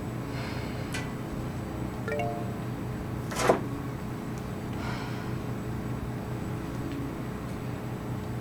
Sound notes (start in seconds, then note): 2.1 phone chimes